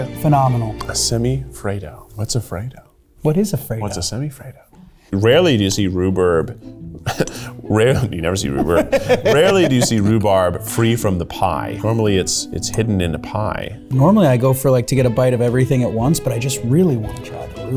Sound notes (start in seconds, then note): 8.5 laughing; 8.5 chuckles